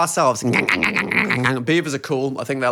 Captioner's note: gnaws